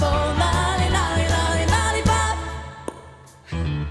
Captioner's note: mouth popping noise